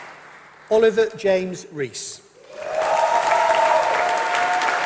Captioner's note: applause